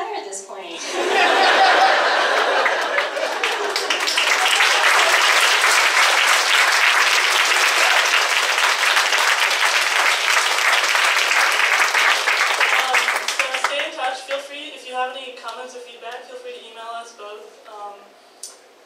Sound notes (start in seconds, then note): 0.8 audience laughs; 3.5 audience applauds